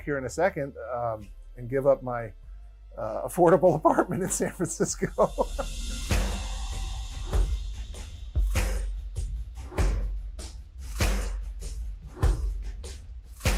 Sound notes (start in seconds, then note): 5.9 laughing; 6.9 upbeat music